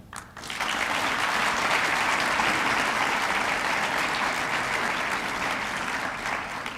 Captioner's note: applause